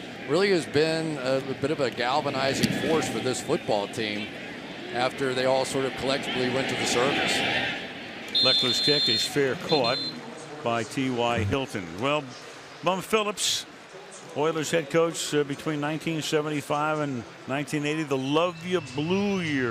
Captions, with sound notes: But it really has been a bit of a galvanizing force for this football team after they all sort of collectively went to the service. [whistle blows] Lechler's kick is fair caught by TY Hilton. Well, Bum Phillips, Oilers' head coach between 1975 and 1980,